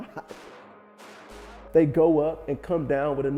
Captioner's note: gunfire banging